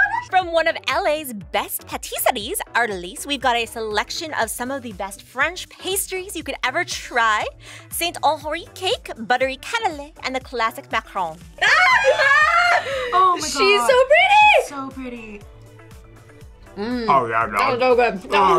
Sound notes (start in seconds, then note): 11.6 both screaming